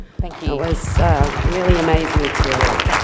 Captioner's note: applause